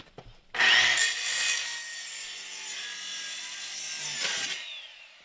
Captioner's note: saw whirrs